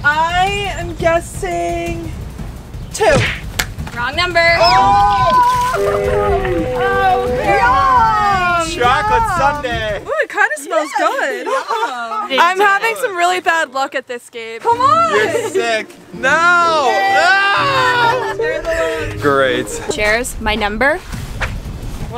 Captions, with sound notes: - I am guessing, 2. - Wrong number. (crowd screams) - Chocolate sundae. - Oh, it kinda smells good. I'm having some really bad luck at this game. - Come on. - Your sick. No (screams) - Share the love. - Great. - Sharers, my number, 2.